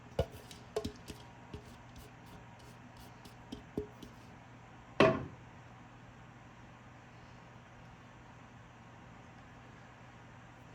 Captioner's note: silence